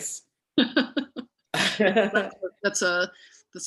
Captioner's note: laughter continues